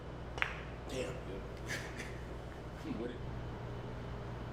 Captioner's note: laughs